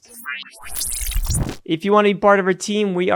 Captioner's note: electronic beeping